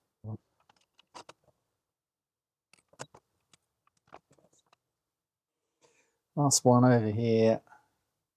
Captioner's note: silence